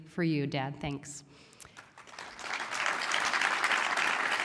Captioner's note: applause